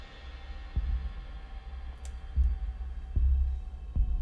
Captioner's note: thumping